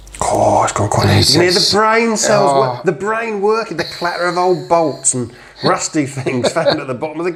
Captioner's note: laughter